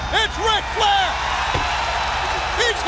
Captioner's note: crowd cheering